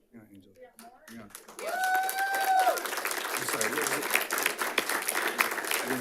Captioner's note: audience applauding and cheering